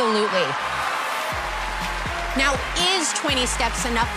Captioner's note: cheers and applause